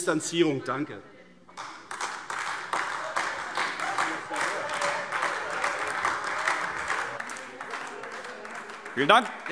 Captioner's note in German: Beifall AfD